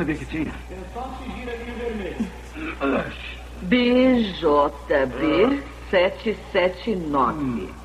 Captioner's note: gasps